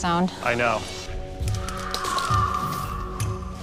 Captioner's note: howling